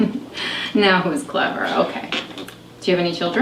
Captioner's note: laughs